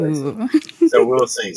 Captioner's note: laughing